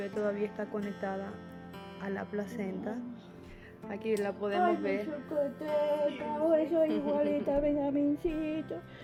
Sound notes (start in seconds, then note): 4.7 in foreign language